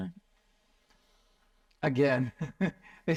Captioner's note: laughs